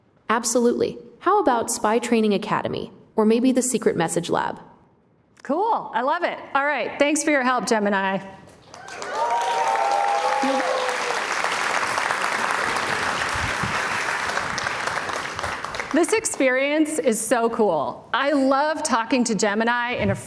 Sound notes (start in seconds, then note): 13.4 applause